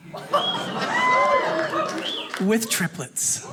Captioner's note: audience cheers